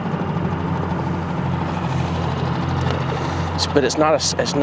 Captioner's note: boat engine chugging